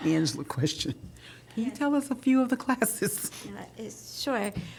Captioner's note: laughter